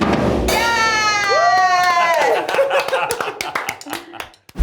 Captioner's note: homeowners cheering